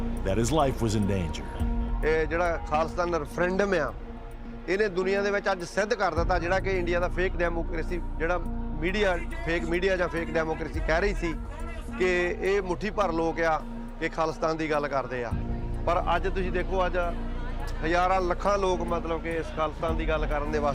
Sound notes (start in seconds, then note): 1.8 speaking Punjabi